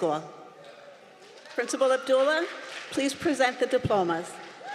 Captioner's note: applause